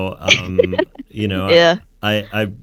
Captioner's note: laughing